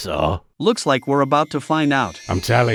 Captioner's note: teleporter noise